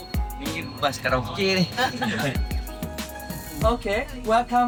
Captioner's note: laugh